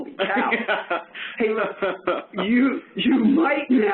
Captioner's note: laughing